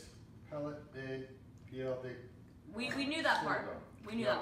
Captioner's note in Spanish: en español, acento americano